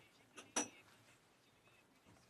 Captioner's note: speaking French